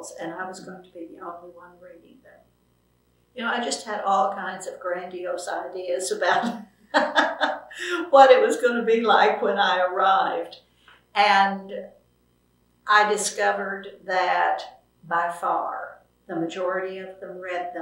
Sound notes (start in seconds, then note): 6.9 laughter